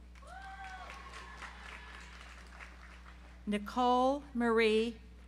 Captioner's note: audience applauds